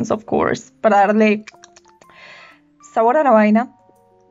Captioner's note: aggressively clicks tongue